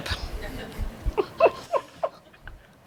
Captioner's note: laughter